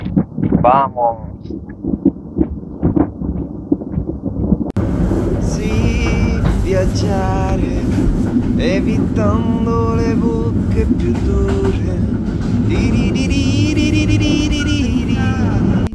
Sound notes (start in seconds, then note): 10.4 humming